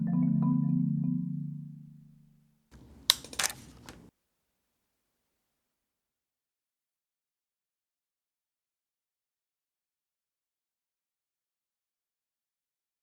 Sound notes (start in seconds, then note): 2.8 camera shutter clicks